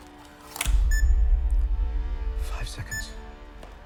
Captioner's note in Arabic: صفير الكاميرا